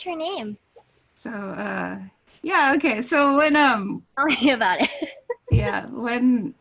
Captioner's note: laughs